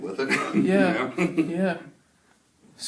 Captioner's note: laughs